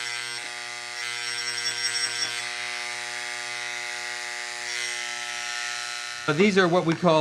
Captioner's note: etcher buzzing